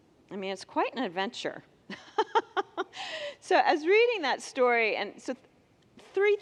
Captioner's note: laughs